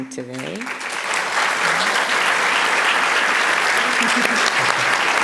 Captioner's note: applause